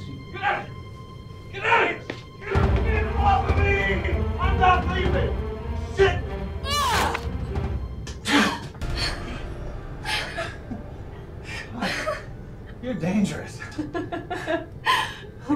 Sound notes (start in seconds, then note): 6.9 Mac grunting; 11.5 laughing